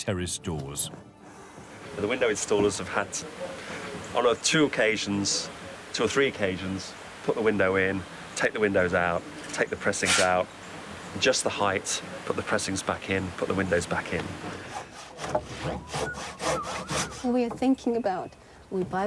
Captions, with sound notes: - The window installers have had, about two occasions, two or three occasions, put the window in, take the windows out, take the pressings out. adjust the height, put the pressings back in, put the windows back in. (machine creaking) - We are thinking about we buy windows